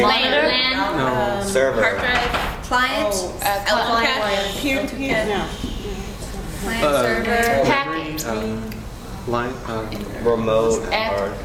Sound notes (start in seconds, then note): none